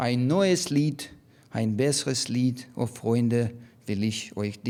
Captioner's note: speaking in foreign language